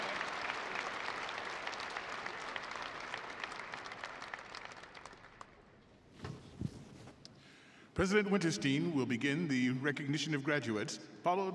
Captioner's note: applause